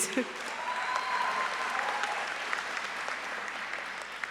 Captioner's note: applause